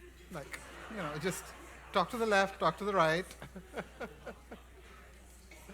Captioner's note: laughs